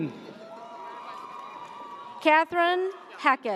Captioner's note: audience cheers